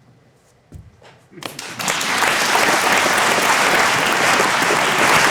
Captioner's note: audience applauding